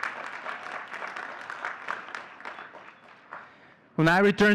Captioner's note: audience cheering and clapping